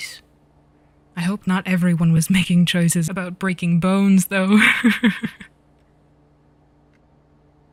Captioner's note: Lorcan laughs